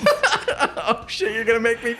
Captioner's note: both laughing